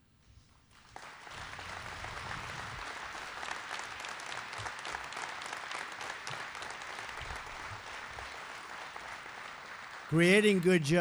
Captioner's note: applause